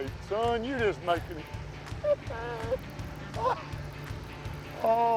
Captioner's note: laughs